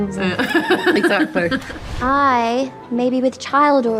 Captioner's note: laughing